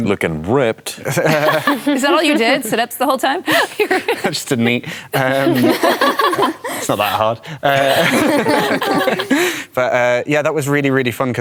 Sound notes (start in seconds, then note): 5.2 laughter